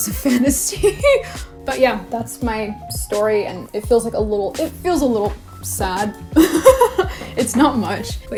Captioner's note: laughs; laughs